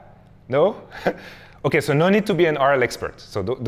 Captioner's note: chuckles